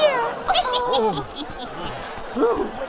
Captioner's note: witch giggles